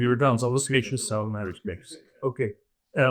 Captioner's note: speaking faintly